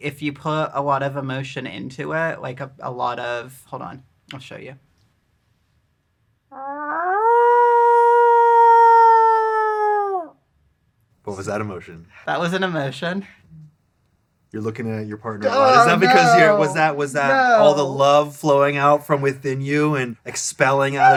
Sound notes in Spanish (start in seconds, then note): 7.0 aullidos